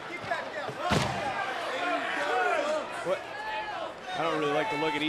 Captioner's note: yelling